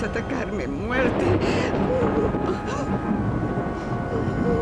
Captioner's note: sobbing